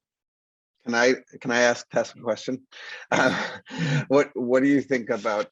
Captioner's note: laughs